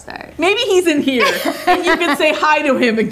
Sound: laughing

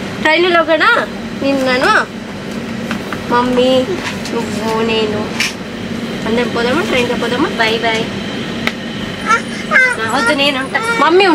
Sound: they are having a conversation in Telugu

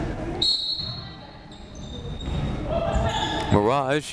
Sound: whistle blowing

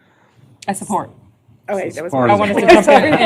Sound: laughter

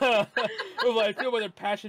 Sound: laughing

